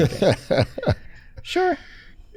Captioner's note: laughs